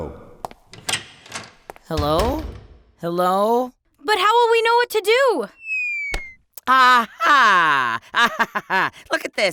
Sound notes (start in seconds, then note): 0.7 door opening; 1.5 footsteps